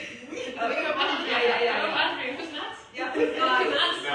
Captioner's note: laughter